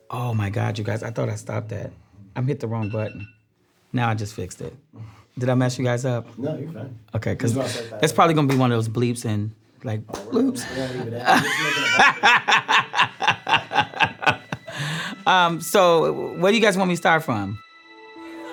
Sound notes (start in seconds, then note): 10.6 laughing